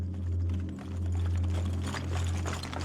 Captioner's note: rubble crumbling underfoot